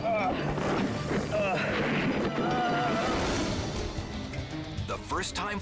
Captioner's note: passenger moans